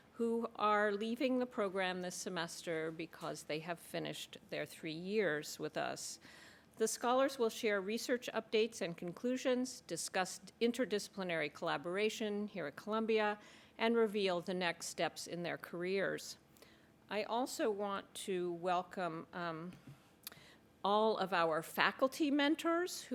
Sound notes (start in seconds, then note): none